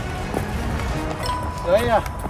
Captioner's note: dramatic music continues; bell dings